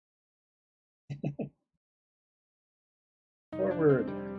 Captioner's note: chuckles